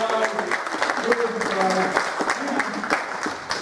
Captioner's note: applause